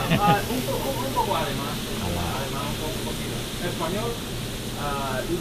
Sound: spanish

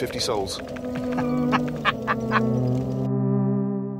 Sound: Hammond chuckling

